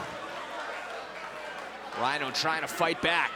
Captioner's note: crowd chatter